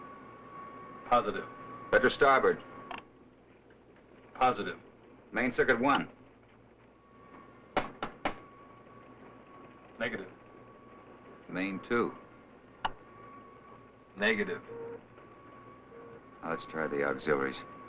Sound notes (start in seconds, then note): 7.8 knocking; 12.8 clicks